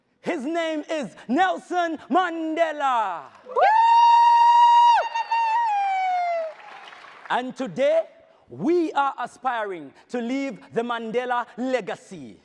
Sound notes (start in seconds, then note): 3.4 audience cheers